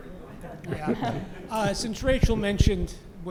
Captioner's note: laugh